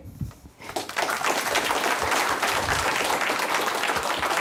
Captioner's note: applause